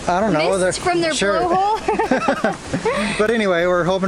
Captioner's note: laughter